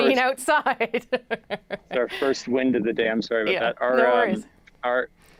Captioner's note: laughter